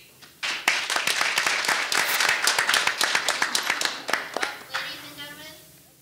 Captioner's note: audience applauding